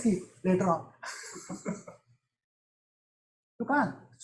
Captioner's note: chuckles